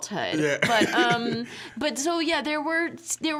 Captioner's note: laughing